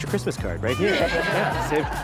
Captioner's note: laughter